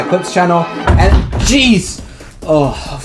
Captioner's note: someone slamming into door